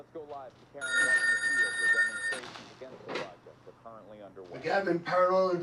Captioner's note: phone rings